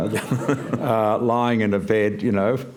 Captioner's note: laughter